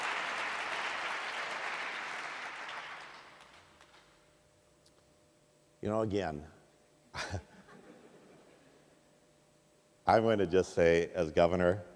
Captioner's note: audience applause; laughs